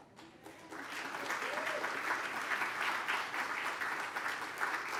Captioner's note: applause